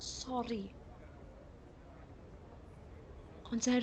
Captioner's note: voices from street